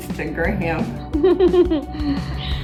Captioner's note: laughing